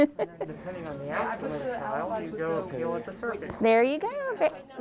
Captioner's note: laughs; group chattering